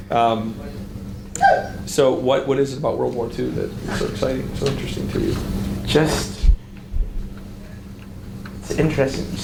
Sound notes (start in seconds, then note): 1.3 audience member yelps